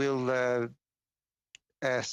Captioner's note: speaking French